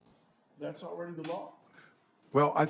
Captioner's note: silence